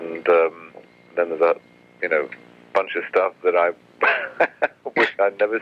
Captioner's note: laughs